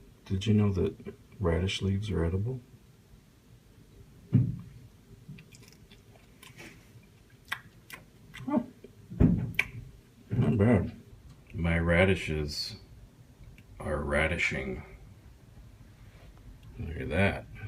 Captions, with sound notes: Did you know that radish leaves are edible? (Crunching) Not bad My radishes are radishing! Look at that